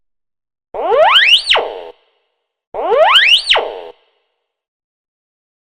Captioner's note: metal detector screeching